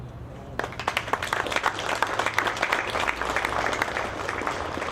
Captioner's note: audience clapping